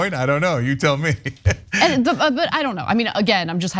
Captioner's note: laugh